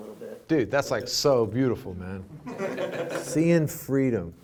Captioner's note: laughing